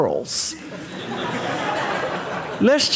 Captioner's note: audience laughing